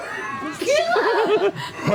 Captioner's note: yells